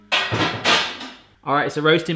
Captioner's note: pans clang